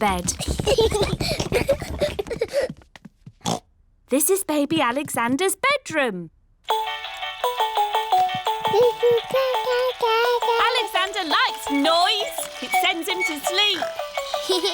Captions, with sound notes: (CHILDREN GIGGLING) (OINKS) This is Baby Alexander's bedroom. (MOBILE PLAYING LOUD MUSIC) (COOING) Alexander likes noise! -It sends him to sleep. -(GIGGLES)